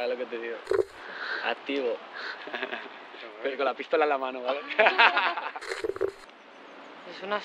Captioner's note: laughs